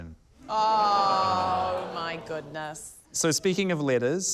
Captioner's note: audience exclaims